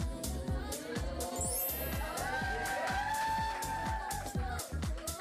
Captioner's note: students applauding and cheering